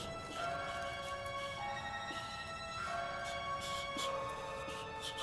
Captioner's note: whistling